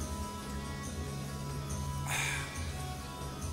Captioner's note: sighing